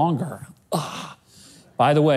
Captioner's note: grunts